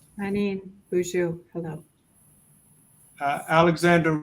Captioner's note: speaking in foreign language